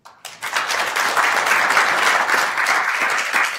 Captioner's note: applauding